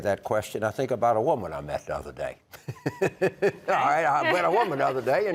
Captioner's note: laughs